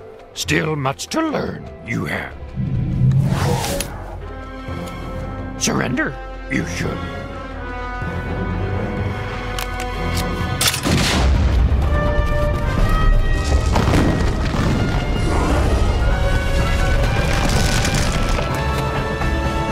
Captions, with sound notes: Still much to learn, you have [woosh] Surrender you should [explosion] [crumbling]